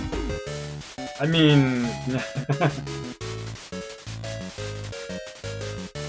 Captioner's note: laughs uncertainly